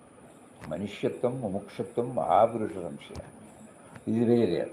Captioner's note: chants in foreign language